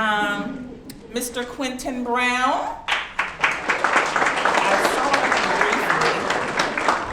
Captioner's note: audience clapping